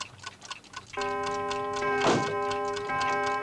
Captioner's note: clock tolling; door closes